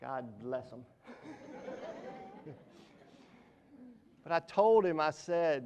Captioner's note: audience laughs